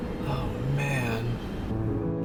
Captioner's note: softly whispered